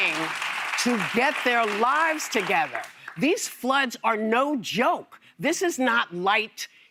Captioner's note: applause